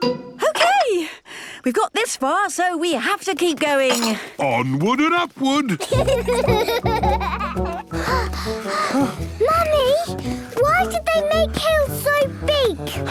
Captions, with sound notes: - Okay! We've got this far, so we have to keep going! - Onward and upward! (children giggling) (panting) - Mummy! Why did they make hills so big?